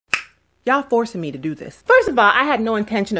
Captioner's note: lip smack